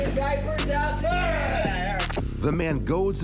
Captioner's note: neighbor yells